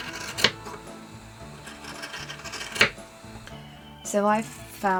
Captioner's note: scissors snipping